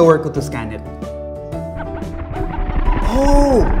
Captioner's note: mind-blower noises